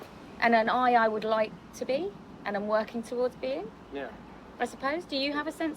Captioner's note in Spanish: none